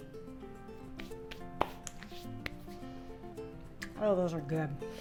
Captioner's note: soft music; clapping softly